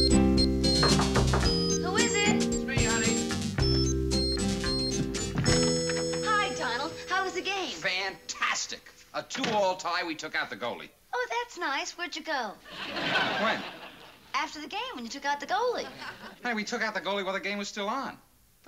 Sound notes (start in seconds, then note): 0.7 knocking at door